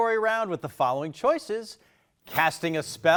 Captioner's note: text thumping